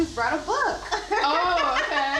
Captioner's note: laughing